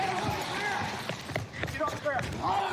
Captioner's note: footsteps running